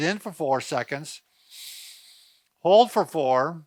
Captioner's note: inhaling